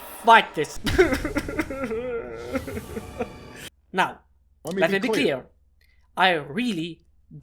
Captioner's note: crying